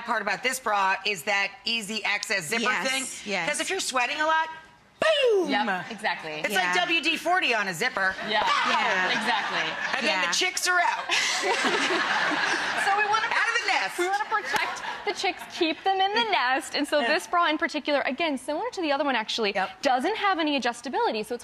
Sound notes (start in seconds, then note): 8.1 crowd laughs; 11.1 all laugh